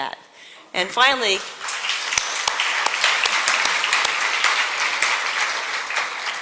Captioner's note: applause